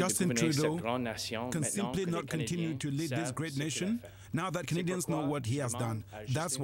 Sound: speaking french

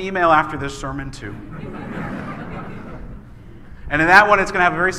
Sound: laughing

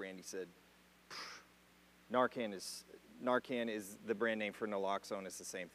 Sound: blows through lips

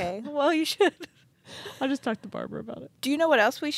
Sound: chuckling

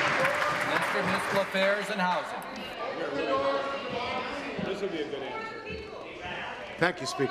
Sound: applause

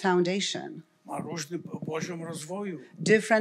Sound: foreign language

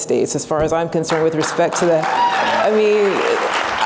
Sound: cheering

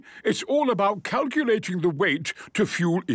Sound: none

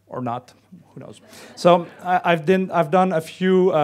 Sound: laughing

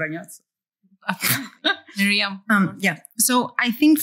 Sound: laughs

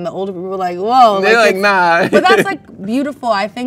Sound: laughs

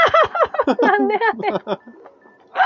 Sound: laughs

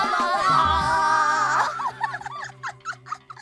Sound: laughing

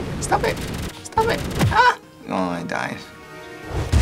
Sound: dejectedly; whump

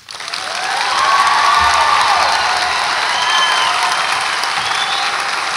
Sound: audience applauds and cheers

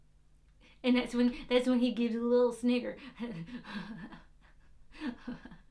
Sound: laughs

